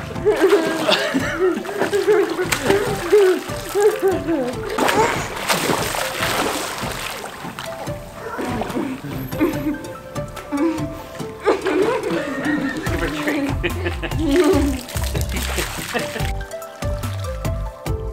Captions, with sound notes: (laughter) (water splashing) (water splashing) (laughter) Give her a drink. (uplifting music)